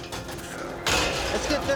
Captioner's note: gate clanking